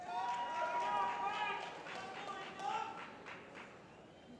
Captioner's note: applause